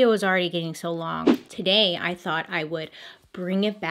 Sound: transition swooshing

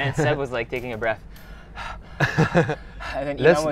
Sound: gasping

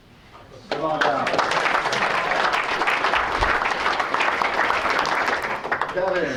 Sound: applause

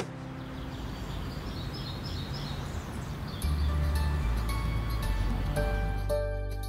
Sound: birds chirping; happy music

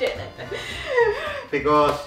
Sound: giggles

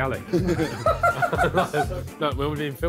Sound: all laughing

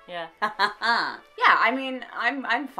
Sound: triumphant laugh

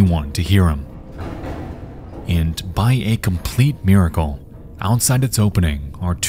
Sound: banging on pipe

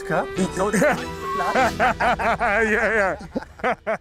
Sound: laughter

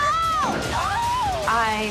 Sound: screams

